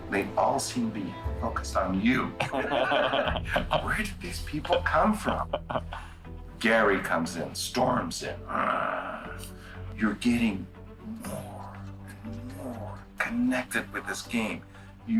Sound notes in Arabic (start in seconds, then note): 2.3 كلاهما يضحك; 8.5 يقلد صوت الهدير